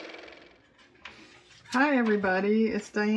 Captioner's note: car motor